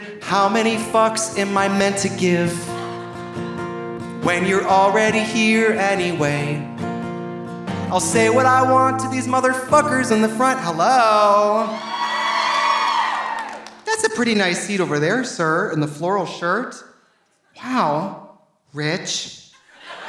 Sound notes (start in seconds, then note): 11.5 audience cheering; 19.6 audience laughing